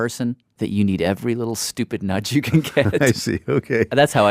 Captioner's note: laughs